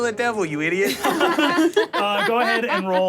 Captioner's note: everyone laughs